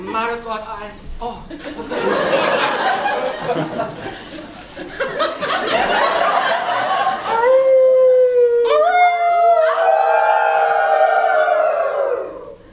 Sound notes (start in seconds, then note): 7.2 howling like a wolf; 9.6 audience joins